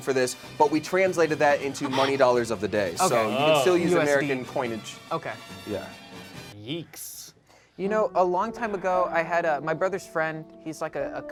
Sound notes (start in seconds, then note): 4.3 soft gasping